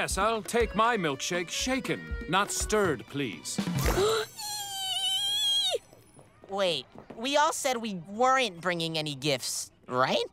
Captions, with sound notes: Yes, I'll take my milkshake shaken, not stirred, please. [gasping, squealing] Wait, we all said we weren't bringing any gifts, right?